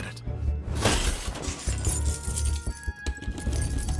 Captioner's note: keys jingling; curious music plays